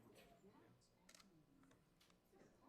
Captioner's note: camera shutter clicks